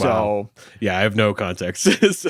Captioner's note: laughs